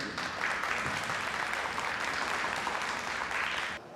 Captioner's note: audience clapping